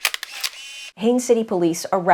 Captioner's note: camera click